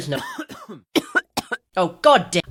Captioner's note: coughing